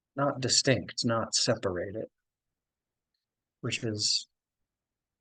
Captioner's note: none